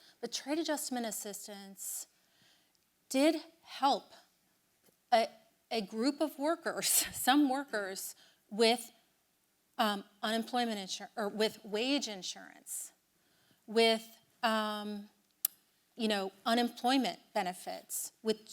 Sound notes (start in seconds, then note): none